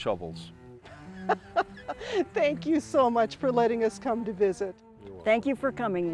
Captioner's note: laughs